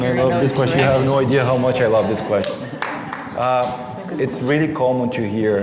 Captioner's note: clapping